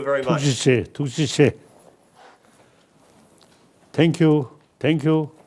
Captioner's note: speaking foreign language